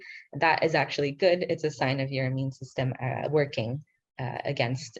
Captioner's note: speaking in foreign language